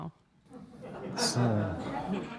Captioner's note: laughter